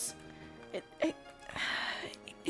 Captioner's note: sigh